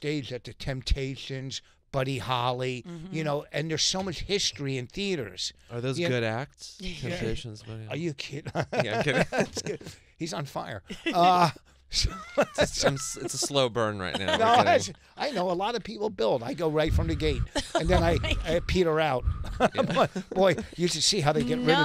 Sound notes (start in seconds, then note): 8.3 laughing; 12.0 laughing; 17.3 blowing into mic